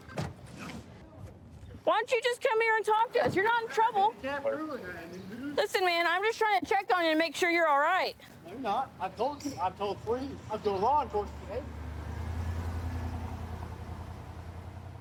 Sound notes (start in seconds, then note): 12.3 vehicle driving